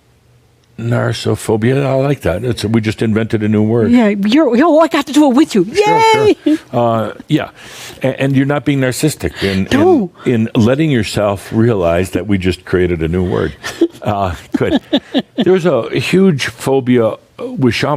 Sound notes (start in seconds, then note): 5.8 chuckles; 13.4 continues chuckling